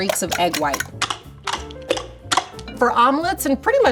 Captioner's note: bowl clacking